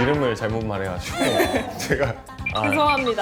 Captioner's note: ugh